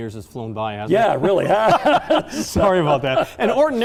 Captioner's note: both men laugh